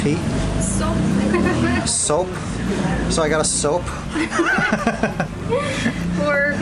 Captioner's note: laughter